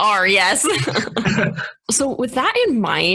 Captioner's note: laughing